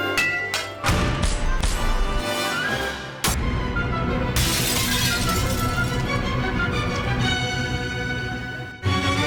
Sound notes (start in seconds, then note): 1.4 dramatic music; 4.3 glass breaking; 5.1 dramatic music